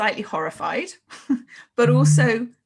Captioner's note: chuckles